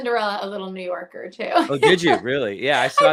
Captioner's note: laughs